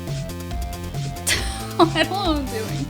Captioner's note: laughs